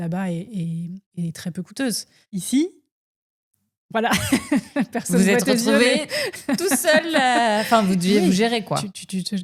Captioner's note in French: rires